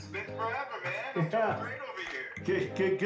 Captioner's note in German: lacht